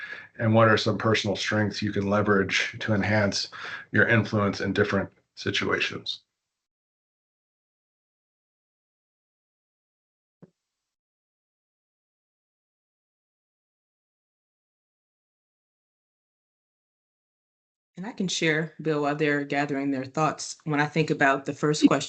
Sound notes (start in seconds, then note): 9.6 silence for several seconds